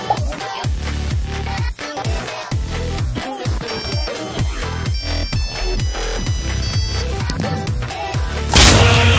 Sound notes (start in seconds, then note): 3.7 ussr national anthem ringtone; 8.4 earthquake in background; 8.4 tank bursts through wall